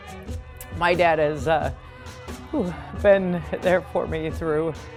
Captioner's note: sighs